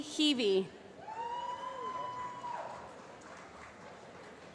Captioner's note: applause